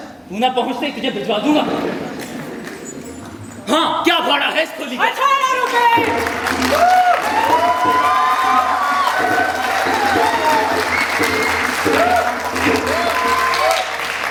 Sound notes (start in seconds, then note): 7.4 ovation